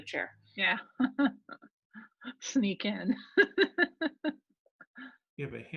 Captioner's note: laughing